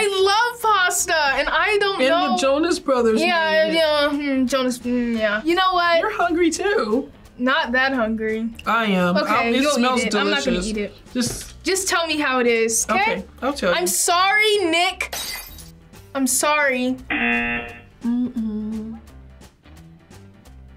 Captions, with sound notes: - I love pasta, and I don't know! - And the Jonas Brothers. - Ah yeah, hmm, Jonas, mmm, yeah. You know what? - You're hungry too! - Not that hungry. - I am, it smells delicious. - Okay you eat it, I'm not gonna eat it. - Just... - Just tell me how it is, okay? - Okay, I'll tell you. - I'm sorry, Nick! (glass shatters) I'm sorry. (buzzer rings) Mmm-mmm.